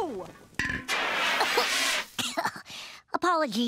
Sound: coughing

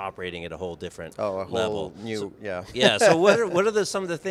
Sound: laughs

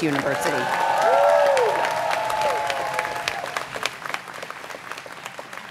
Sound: students cheering

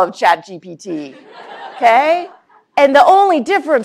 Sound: laughter

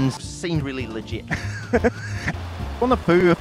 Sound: weird laugh

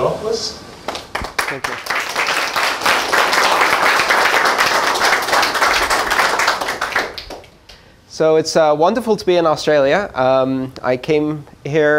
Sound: applause

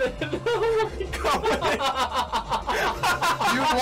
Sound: laughs

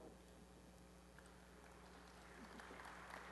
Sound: applause

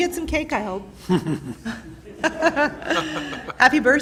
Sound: laughter

